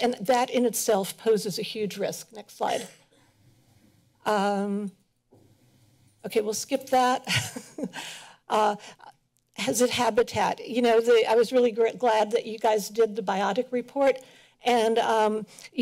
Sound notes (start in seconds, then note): 7.4 laughs